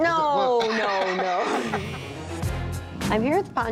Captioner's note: buzzer buzzes